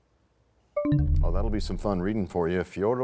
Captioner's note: bell chimes, time expires